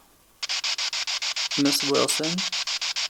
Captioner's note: spirit box sound